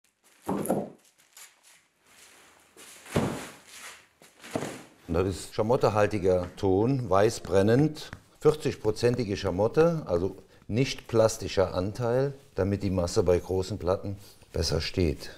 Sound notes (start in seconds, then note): 3.0 rustling